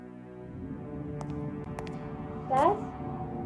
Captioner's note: footsteps tapping